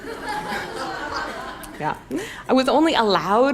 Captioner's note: audience laughs